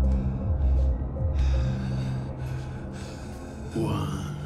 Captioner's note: Palle breathes deeply